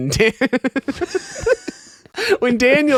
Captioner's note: laughing